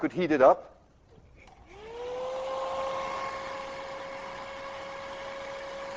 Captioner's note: blow-dryer humming